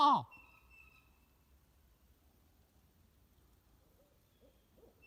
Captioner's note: blue jays calling